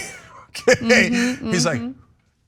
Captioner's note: laugh